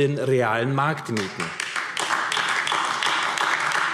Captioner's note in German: Beifall AfD